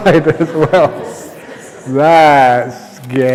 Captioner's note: laughter